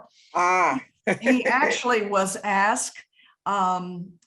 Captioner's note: laughing